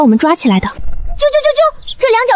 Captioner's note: chirp chirp chirp